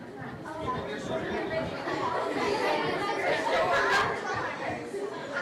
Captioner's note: all chattering